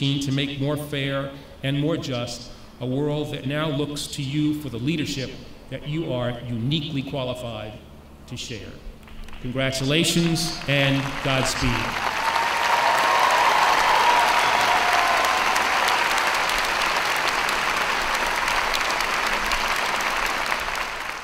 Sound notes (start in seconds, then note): 11.7 applause